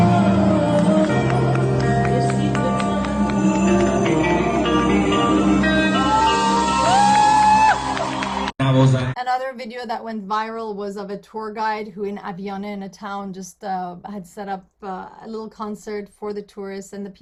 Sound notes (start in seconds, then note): 7.0 applause; 8.4 non-english speech